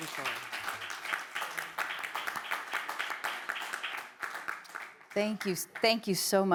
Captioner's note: audience applauding